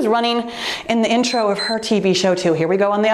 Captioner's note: timer beeps